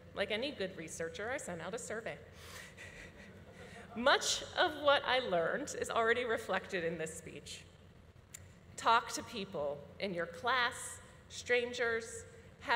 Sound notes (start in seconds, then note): 2.9 audience laughing